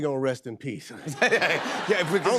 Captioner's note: laughter